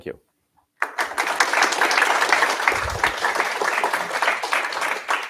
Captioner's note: applause